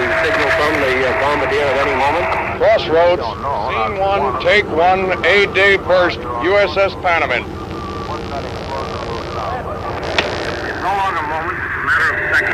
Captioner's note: slap!